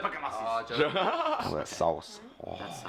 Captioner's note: laughs